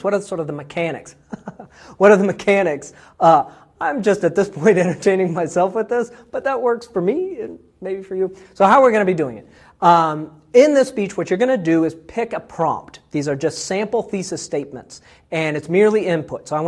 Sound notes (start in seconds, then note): 1.2 laugh